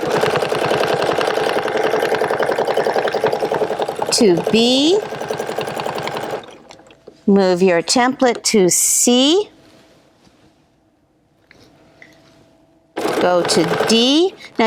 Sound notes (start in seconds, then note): 0.0 machine whirring